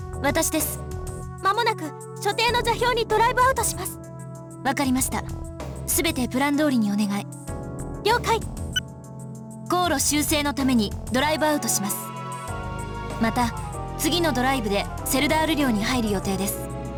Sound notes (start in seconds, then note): none